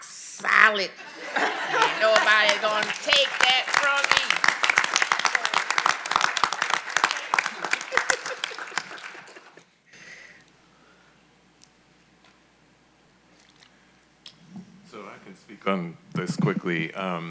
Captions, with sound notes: Nobody gonna take that from me. (all applauding) - Thank you. - So I can speak on this quickly.